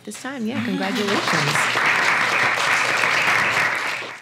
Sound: applause

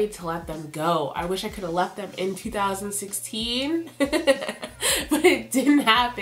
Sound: laughs

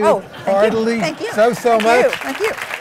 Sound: applause

